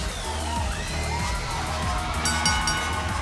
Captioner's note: bell ringing